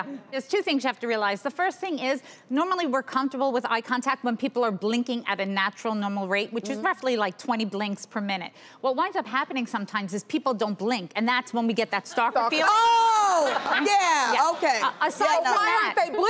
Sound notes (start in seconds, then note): 12.3 laughs